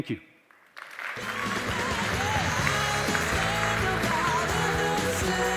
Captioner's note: audience applauding; upbeat music